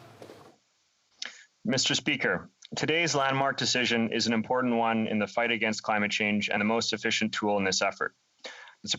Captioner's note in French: voix de l'interprète